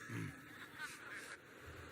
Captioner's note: laughter